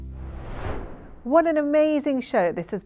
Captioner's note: screen swooshing